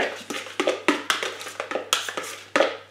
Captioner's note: stirring